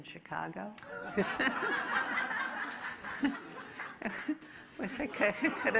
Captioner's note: audience laughing